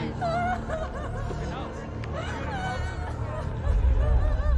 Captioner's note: crying